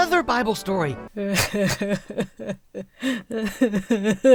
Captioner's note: Emma cries